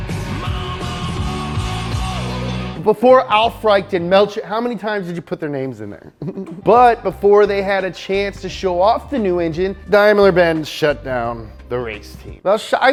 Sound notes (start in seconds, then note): 5.9 laughs